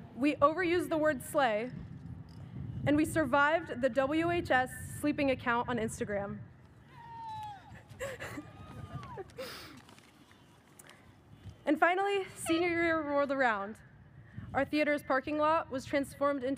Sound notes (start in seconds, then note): 7.2 audience member cheers; 8.0 chuckles